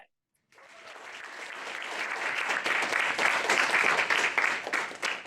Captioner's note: audience applauds